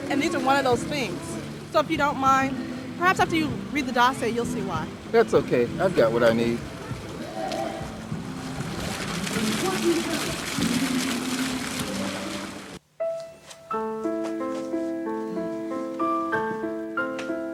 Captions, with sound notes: and these are one of things. So, if you don't mind, perhaps after you read the docs, you'll see why. - That's okay. I've got what I need. [water sounds] [piano playing]